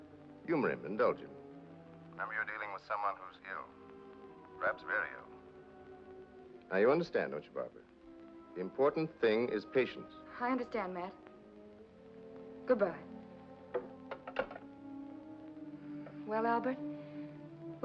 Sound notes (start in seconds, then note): 14.0 phone sets into receiver